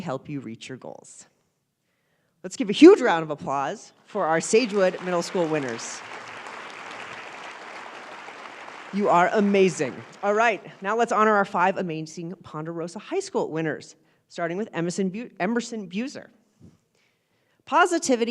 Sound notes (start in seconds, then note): 10.1 applause